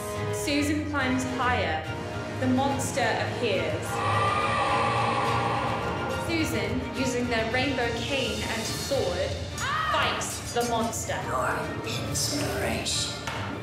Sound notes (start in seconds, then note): 3.8 harsh screeching; 9.6 cries out